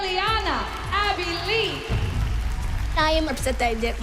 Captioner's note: applause